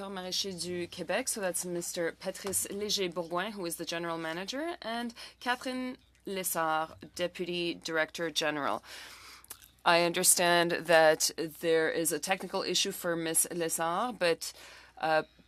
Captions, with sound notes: THIS AFTERNOON WE HAVE THE. [ Speaking FRENCH ] , SO THAT'S Mr. PATRICE BOURGOIN WHO IS THE GENERAL MANAGER AND CATHERINE LESSARD